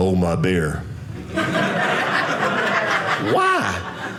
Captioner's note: audience laughing